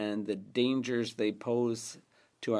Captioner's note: speaking French